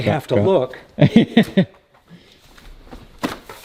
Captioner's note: laughing